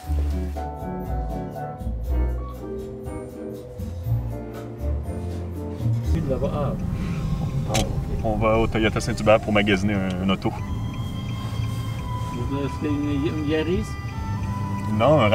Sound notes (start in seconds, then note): 0.1 gentle upbeat music; 6.5 foreign language